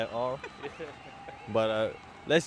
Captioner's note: awkward chuckling